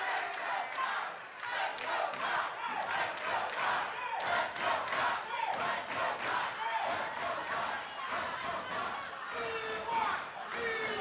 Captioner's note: fans chanting